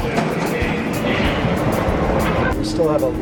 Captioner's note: train engine rumbling